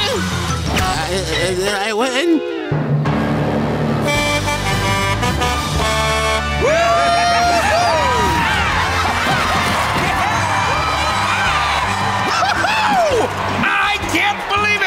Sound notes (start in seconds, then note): 4.0 truck horn; 6.5 cheering